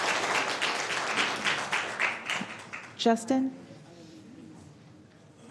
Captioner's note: applause